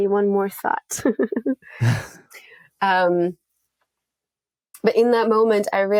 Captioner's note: chuckling